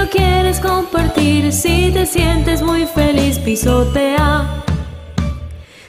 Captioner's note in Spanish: stomp stomp